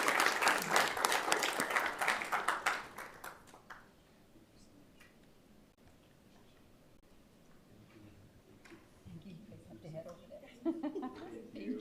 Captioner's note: applause